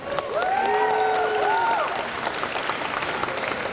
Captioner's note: cheers and applause